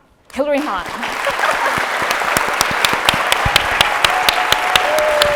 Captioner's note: audience applauding